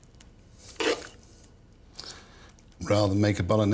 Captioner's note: spoon scraping